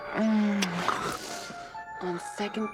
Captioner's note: moaning